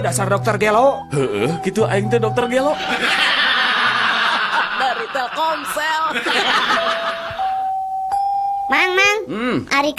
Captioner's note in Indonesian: tertawa